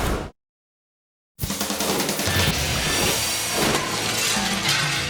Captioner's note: logo whooshing; upbeat music; glass breaking